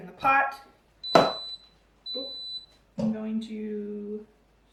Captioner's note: instant pot beeps